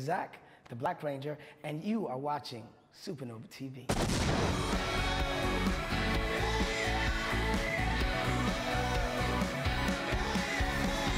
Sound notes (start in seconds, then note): 3.9 explosion; 4.2 rock music